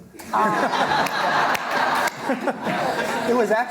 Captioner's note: laughter